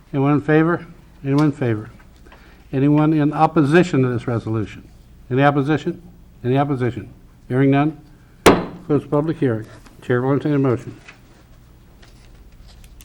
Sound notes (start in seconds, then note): 8.4 gavel banging